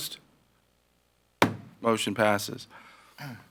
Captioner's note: gavel bangs